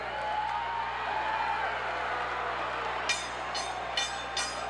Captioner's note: crowd cheers; bell rings